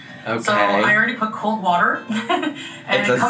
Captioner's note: laughs